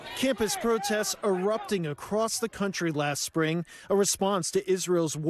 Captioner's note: crowd chanting